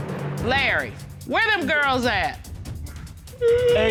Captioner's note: judge dana reading